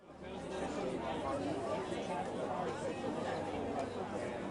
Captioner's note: audience chattering